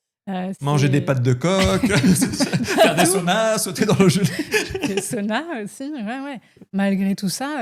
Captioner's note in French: rires; rires